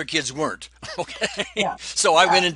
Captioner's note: laughs